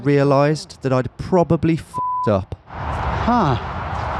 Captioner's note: beep